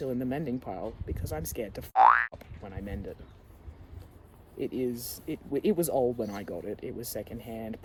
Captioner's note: boing!